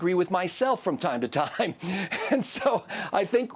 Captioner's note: laughs